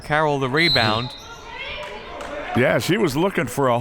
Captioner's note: whistle